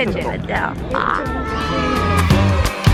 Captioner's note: squealing